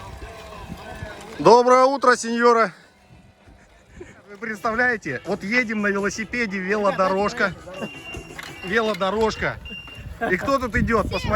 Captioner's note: laughs